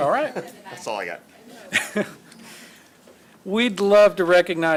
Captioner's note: laughs; laughs